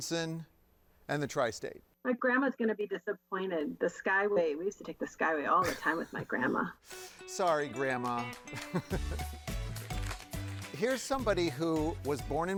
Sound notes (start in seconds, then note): 6.9 playful upbeat music; 8.5 laughs; 9.8 paper fluttering